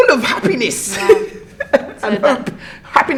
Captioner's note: laughs